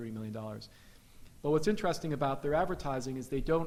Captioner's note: none